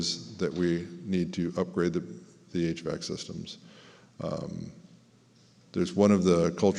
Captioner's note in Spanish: hvac